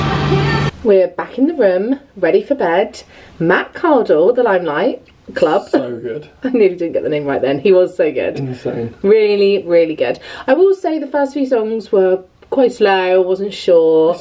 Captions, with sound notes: We're back in the room. Ready for bed. Matt Cardle, the Limelight Club (laughing). - So good. - I nearly didn't get the name right then. He was so good. - Insane. - Really, really good. I will say the first few songs were quite slow. I wasn't sure.